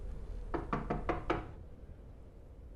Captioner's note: knocking on door